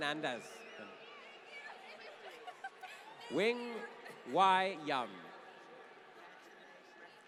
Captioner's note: laughter